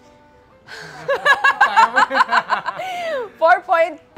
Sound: laughs

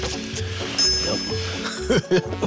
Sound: dinging; laughing

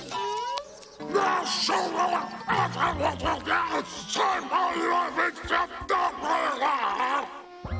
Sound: Robotnik snarling

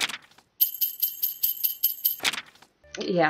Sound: bells jingle

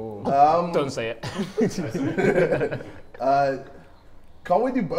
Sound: Sidemen laugh

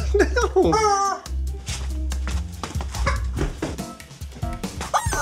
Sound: chuckles; rubber chicken squeaking

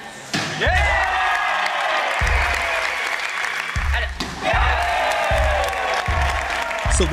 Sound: applause

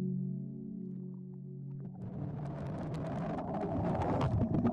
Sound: water sloshing

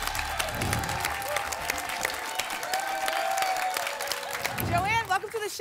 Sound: applause and cheering

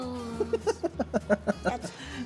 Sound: laughter

